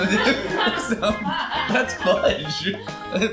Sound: laughter

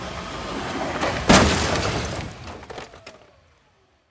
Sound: car crashes

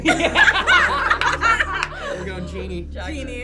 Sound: group laughs

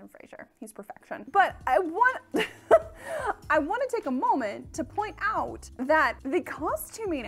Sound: laughs

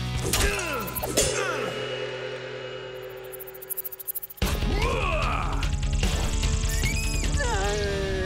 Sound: gong

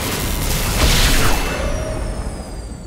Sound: crackles and sparks; fwoom!

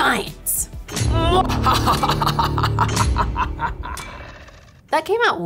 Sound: maniacal laughing

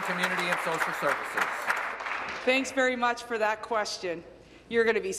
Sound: applause

